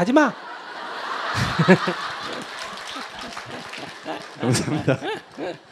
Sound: audience Laughter

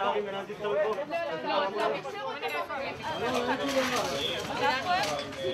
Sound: paramedics speaking foreign language

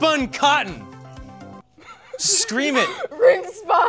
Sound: laughter

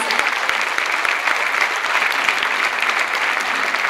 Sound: clapping

